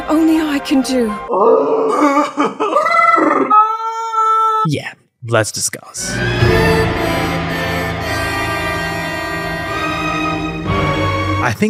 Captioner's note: various screams